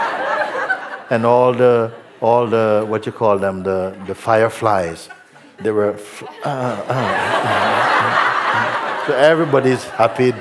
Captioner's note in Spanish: risas; risas